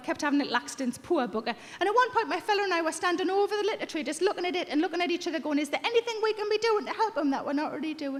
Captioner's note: none